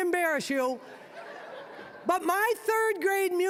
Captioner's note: audience laughing